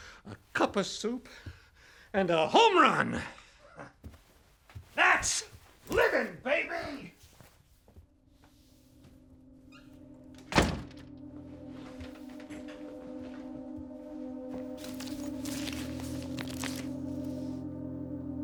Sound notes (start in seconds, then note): 9.6 door closes; 14.8 suspenseful music